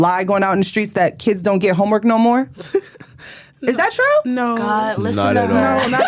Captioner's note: laughter